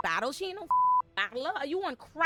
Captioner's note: beep